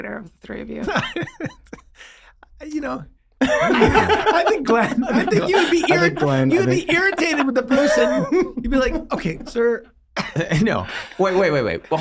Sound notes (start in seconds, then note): 3.4 both laugh